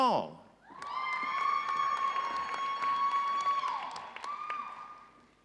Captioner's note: audience cheering